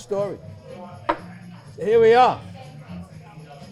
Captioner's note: glass thuds